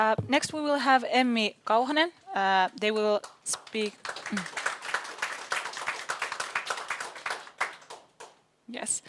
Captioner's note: audience applauds